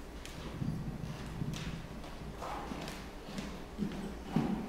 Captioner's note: footsteps thumping